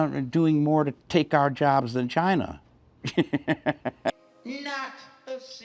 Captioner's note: laughs